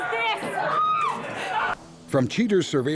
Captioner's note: screaming